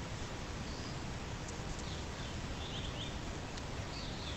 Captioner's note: birds chirping